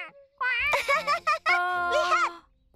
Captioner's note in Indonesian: tertawa